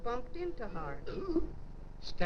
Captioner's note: woman belching